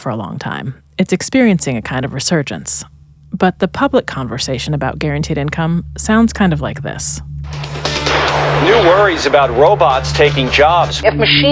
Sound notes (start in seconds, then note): 7.6 thunder cracking